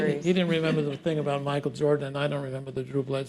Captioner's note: laughter